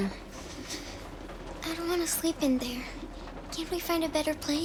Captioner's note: shiver